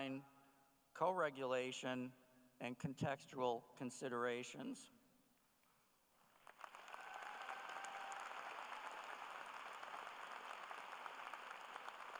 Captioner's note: cheers and applause